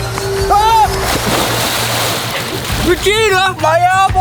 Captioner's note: screaming